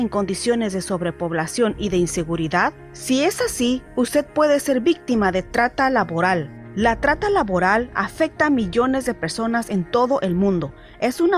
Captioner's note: audio playing in Spanish